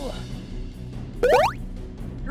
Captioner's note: boing